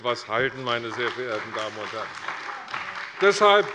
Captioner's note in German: Beifall bei der CDU und dem BÜNDNIS 90/DIE GRÜNEN